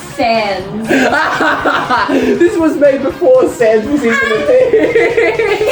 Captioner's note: laughing hysterically